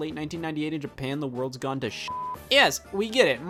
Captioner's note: beep